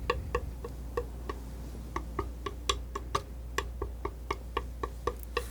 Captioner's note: tapping